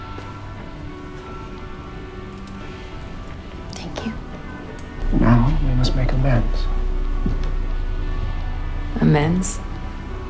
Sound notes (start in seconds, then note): 5.2 voiceover